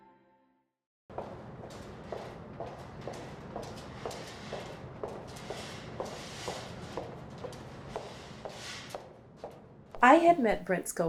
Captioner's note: sound of footsteps